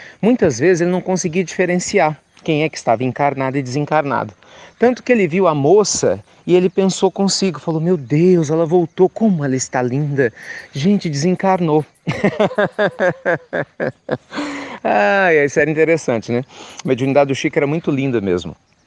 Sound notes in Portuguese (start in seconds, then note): 12.0 Risos